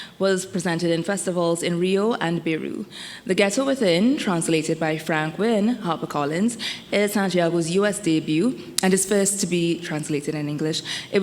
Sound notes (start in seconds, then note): none